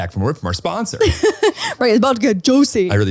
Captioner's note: laughing